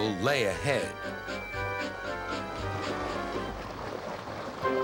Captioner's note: peeps